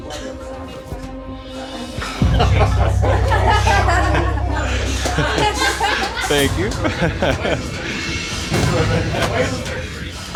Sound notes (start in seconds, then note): 2.2 laughter; 7.0 chuckles